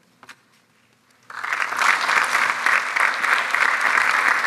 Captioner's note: audience applauds